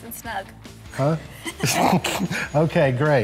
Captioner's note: laughing